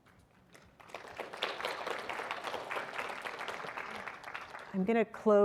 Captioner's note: audience applauding